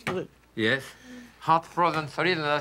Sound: cabbage thunking

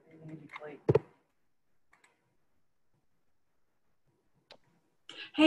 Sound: student speaking faintly

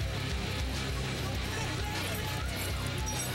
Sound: shouting

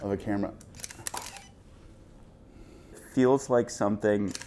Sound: camera shutter clicks; camera shutter clicks

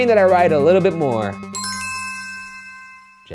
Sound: bell ringing

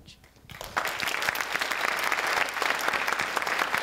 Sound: applause

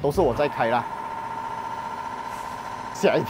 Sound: the Compressor suddenly started

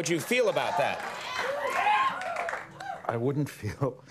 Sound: audience cheering

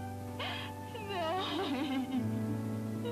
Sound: whimpers

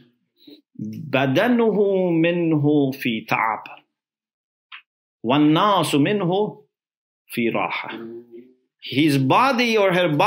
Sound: Arabic

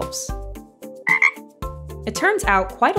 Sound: ribbit!

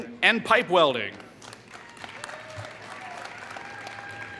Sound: applause

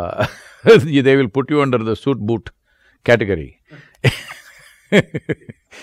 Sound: laughs

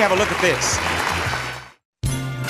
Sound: audience applauding

